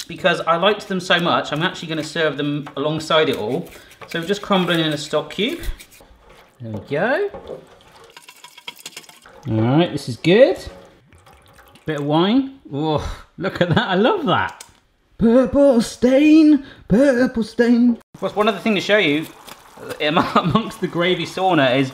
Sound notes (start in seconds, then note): 7.6 stirring sounds; 11.1 wine pouring